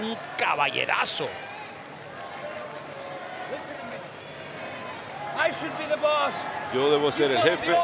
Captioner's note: applause